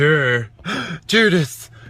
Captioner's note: gasp